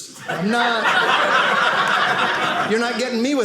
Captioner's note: audience laughing